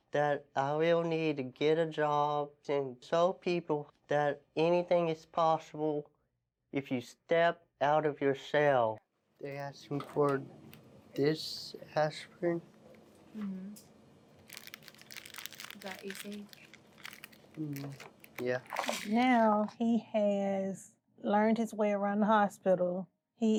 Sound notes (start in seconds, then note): 14.4 paper rustling